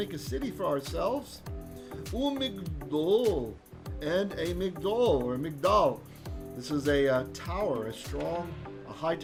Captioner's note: Hebrew